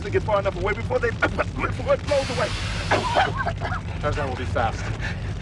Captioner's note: cough